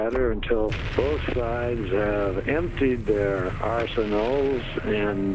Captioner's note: explosion booming